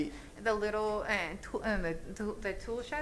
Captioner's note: speaking spanish